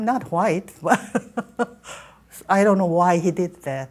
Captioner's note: laughing